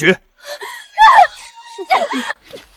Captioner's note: screams